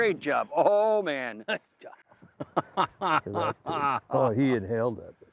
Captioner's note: laughing